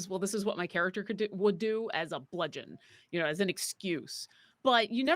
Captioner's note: none